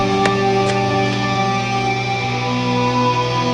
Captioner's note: footsteps